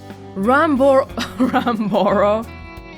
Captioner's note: chuckles